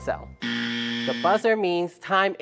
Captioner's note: buzz Sound